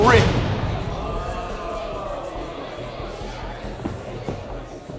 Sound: crowd chatter

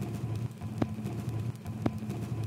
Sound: static noise

